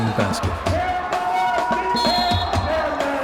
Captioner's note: yelling; blast of whistle